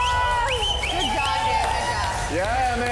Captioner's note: participants cheering